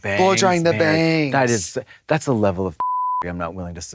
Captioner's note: beep